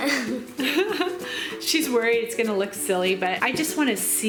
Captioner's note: laughs